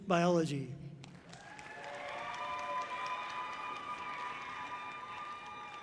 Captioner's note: audience cheering loudly